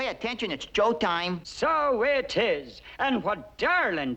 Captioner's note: Irish accent